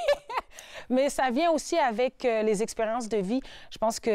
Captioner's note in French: rires